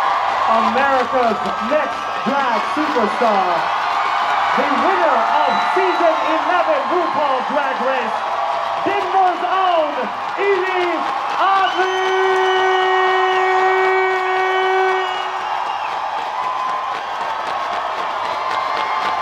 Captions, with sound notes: America's Next Drag Superstar The winner of season 11 RuPaul's Drag Race Denver's own Yvie Oddly... [cheering]